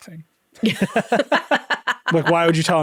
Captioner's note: laughing